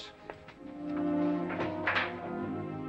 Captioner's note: door opens